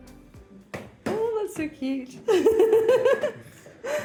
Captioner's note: laughing